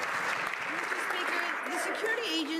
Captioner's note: some Applause